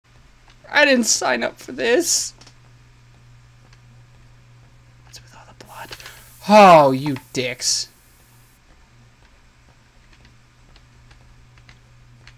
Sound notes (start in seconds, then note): 3.3 whispering; 5.6 steam hisses; 5.9 gasp